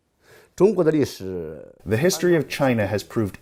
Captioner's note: speaking foreign language